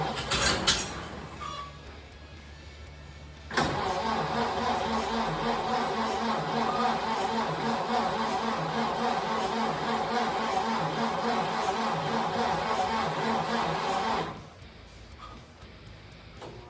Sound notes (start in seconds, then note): 0.0 engine sputters; 3.4 engine cranking